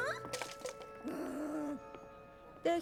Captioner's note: growl